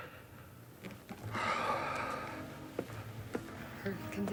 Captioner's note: Lasky sighs